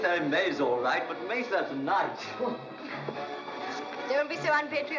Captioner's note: scoffs